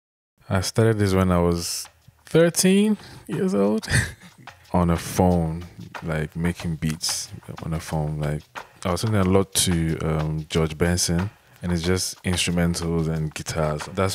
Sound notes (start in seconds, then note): 3.6 chuckles